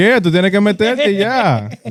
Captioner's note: speaking In Foreign Language